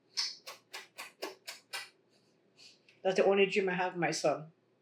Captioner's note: kissing sounds